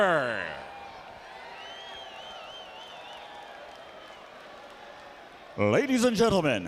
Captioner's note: crowd cheering